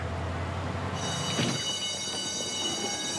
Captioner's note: bell rings